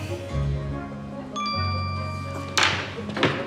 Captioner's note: phone chimes